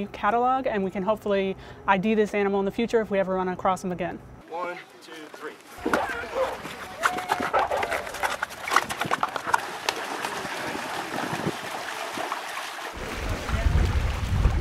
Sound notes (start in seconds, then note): 4.8 footsteps shuffling; 11.6 water sloshing